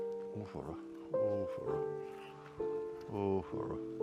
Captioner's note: guy mutters